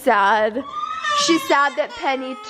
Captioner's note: cries